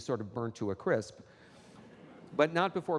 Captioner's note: audience laughing